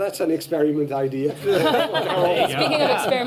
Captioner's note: laughter